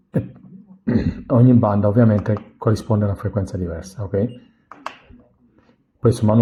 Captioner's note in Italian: schiarire la voce